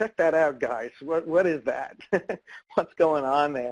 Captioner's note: laughs